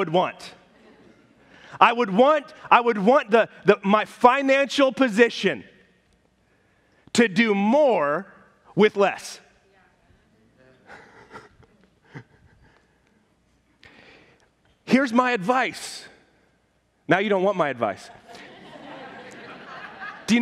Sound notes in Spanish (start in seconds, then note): 0.6 risas de la congregación; 10.8 risas; 18.0 risas de la congregación